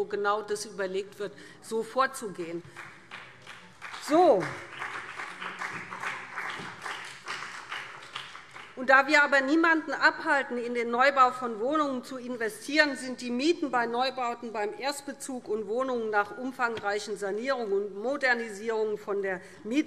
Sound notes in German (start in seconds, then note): 2.6 Beifall